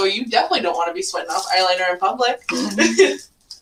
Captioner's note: laughs